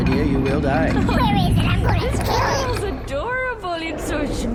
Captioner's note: babytalk